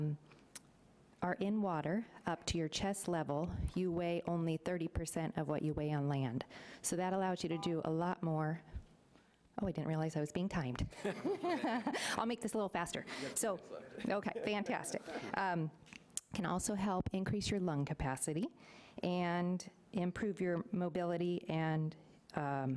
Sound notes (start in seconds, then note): 11.0 laughing